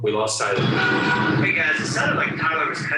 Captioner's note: honking